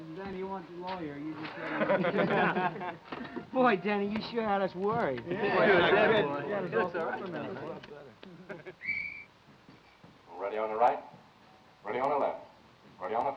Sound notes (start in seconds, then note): 1.4 men laughing; 5.2 men agreeing; 8.8 whistle blowing